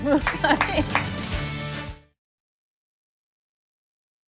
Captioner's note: laughter